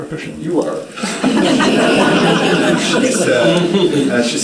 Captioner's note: audience laughing